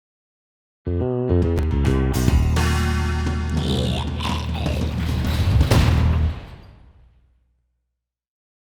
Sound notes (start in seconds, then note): 3.4 zombie growls; 5.2 door slams